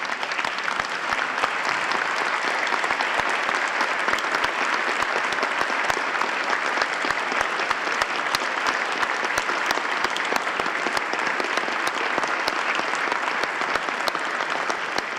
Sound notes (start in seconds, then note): 4.5 applause